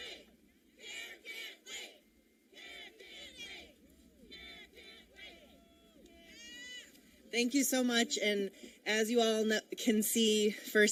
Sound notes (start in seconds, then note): 1.7 chanting